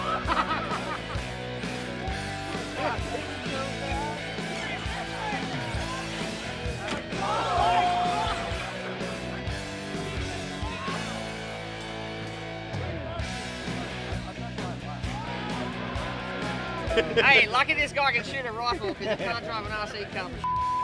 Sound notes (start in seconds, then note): 0.0 laughter; 6.7 shouting; 16.8 laughter